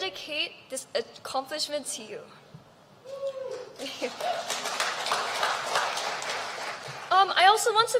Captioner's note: applause